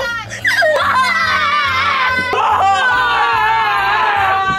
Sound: boys crying

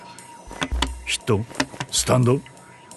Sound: Jack taps table

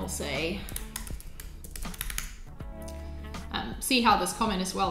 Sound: keyboard clicking

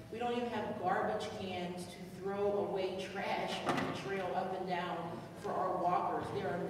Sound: none

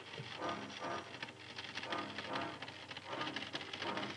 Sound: wire crackling

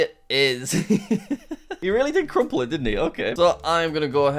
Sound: laughs

